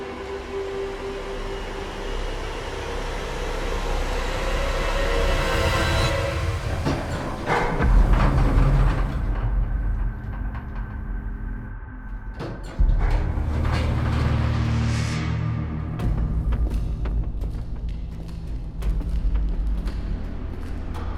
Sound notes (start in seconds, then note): 0.3 slow orchestral music continues; 1.4 slow music; 6.8 elevator clanks; 12.7 slow music continues